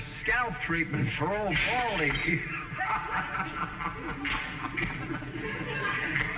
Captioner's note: laughs